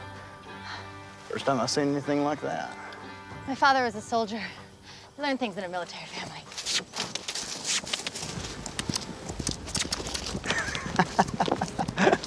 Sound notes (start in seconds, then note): 8.9 hoofbeats; 10.4 laughter